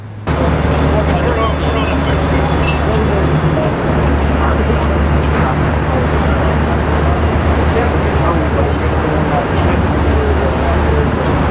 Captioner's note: background Discussion